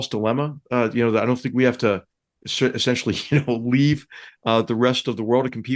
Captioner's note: laugh